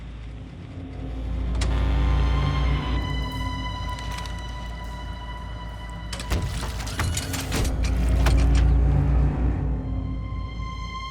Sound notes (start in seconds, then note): 1.3 suspenseful music; 6.1 robot whirring